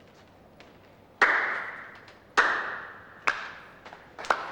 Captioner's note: slow clapping